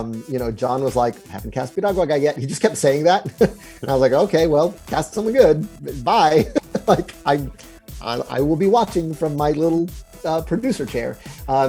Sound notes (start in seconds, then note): 3.2 chuckles; 6.3 chuckles